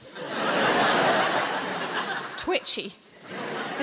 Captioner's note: audience laughing